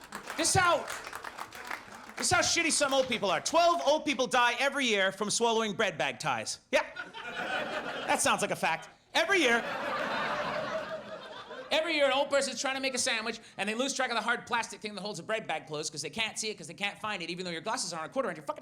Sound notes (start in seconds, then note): 0.0 audience laughs; 6.9 audience laughs